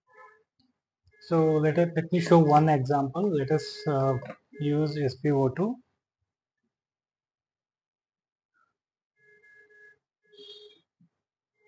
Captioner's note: instrument beeping